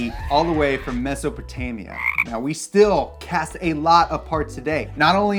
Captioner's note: frog croaking